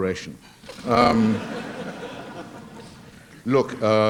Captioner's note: laughter